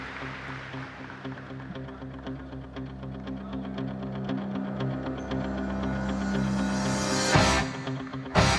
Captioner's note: applause